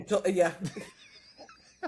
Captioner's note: both Laughing